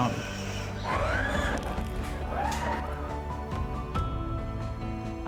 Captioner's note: mini automatic vehicle moving